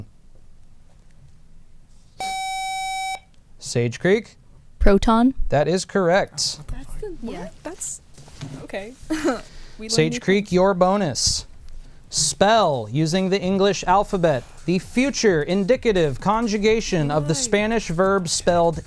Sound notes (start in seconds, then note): 2.2 buzzer